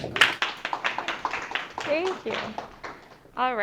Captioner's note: audience applause